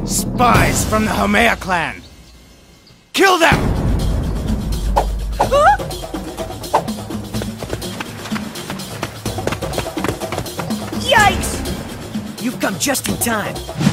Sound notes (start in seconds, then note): 5.5 Freddi screams